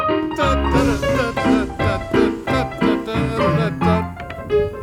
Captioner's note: man hums